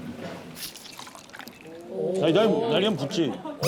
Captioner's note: pouring out